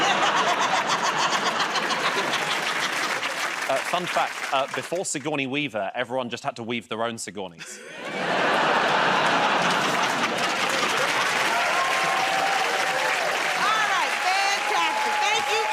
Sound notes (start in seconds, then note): 0.0 laughter and applause; 7.6 laughter; 11.9 cheering and applause